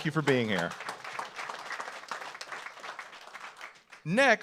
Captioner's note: audience applauds